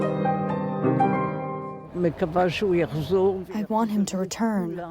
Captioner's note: through translator